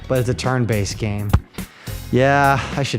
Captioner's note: smack